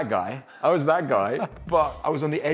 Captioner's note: host laughing